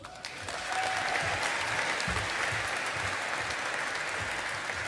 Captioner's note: audience applauding